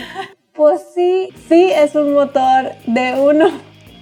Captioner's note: laughter